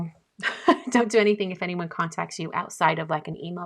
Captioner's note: laughing